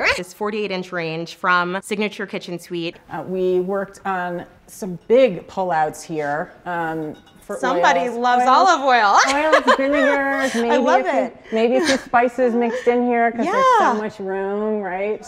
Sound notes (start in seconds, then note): 9.1 giggles